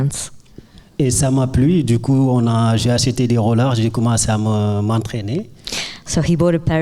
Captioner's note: speaking in French